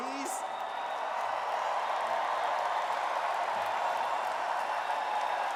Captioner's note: audience cheers and applauds